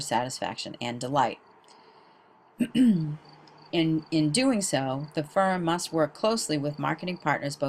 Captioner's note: cough